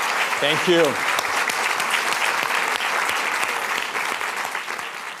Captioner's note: applause